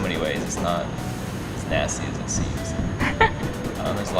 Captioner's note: laugh